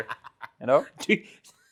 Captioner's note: laughs